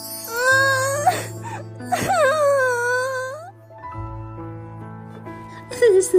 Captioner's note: sighs; Tommy cries